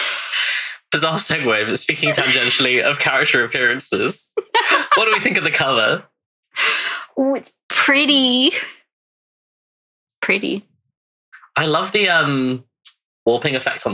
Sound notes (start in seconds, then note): 1.8 laughs